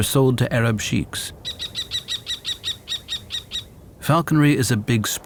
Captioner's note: kestrel calls